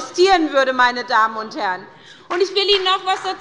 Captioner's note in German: Beifall bei der SPD